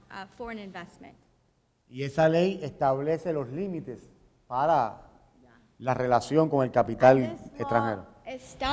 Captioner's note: speaking in Spanish